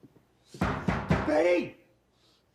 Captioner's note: door banging